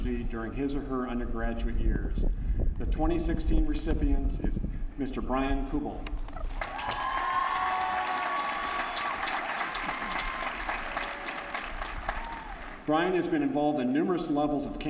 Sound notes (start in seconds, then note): 6.4 applause